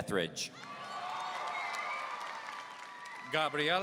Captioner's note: audience cheering